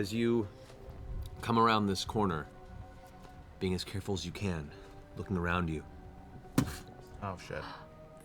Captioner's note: impact